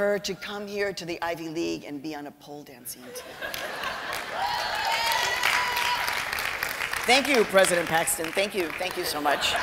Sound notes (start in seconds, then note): 3.0 laughter; 3.5 cheering and applause